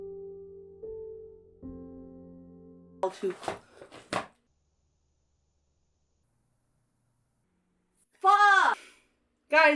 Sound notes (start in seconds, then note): 3.6 wing clatters to floor; 8.6 sighs